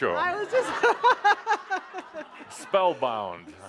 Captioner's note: laughing